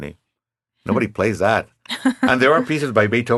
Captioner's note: laughing